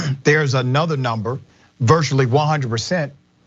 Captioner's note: cough